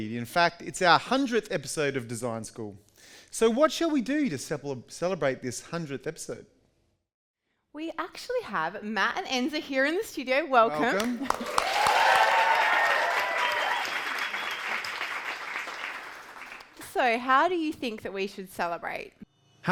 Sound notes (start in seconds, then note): 13.2 audience cheers and applauds